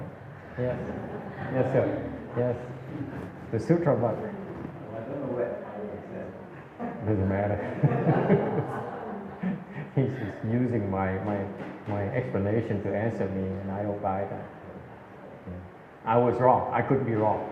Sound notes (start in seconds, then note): 6.5 laughs